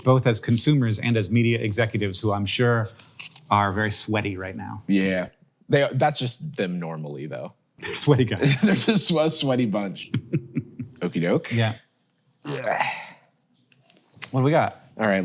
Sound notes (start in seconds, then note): 9.9 Hank chuckles; 12.4 Jarvis grunts